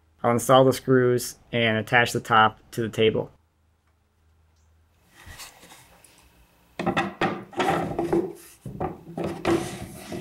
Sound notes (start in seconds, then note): none